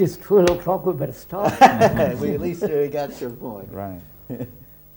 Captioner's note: laughs